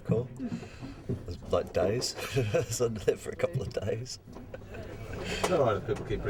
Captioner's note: chuckles